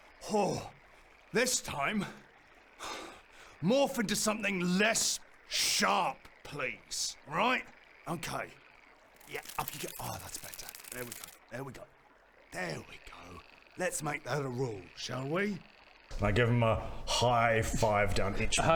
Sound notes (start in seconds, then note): 10.3 creepy crawly noises